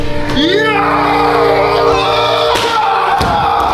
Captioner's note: yelling